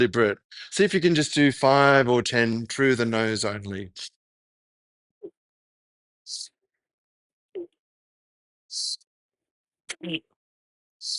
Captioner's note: breaths